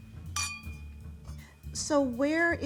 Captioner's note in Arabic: كؤوس ترن